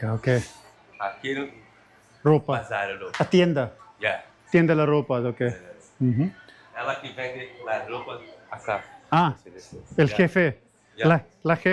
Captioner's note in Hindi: पुर्तगाली में बोलते हुए